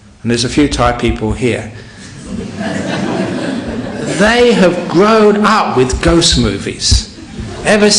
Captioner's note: laughter